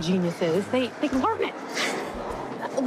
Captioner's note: chuckles